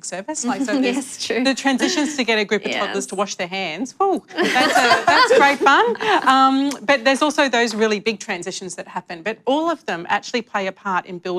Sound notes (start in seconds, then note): 4.3 laughter